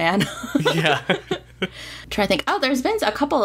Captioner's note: laughs